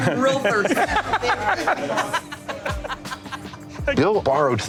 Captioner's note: laughter